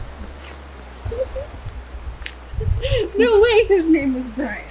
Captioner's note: laughs